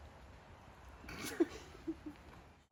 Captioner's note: laughs